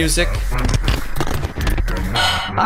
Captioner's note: radio makes static, murming noises; sigh